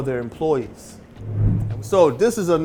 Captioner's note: air whooshing